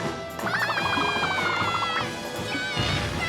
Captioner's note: boy shouts